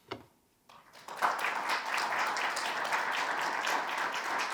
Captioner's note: audience applause